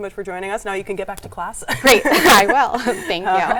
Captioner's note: both laugh